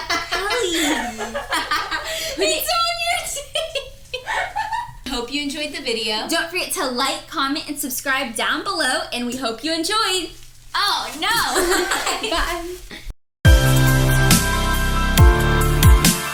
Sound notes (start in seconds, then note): 11.2 laughs; 13.4 upbeat music